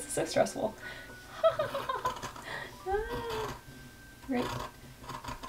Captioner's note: anxious laughter